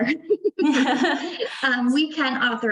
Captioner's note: both laughing